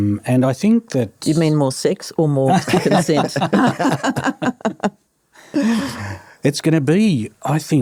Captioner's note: laughter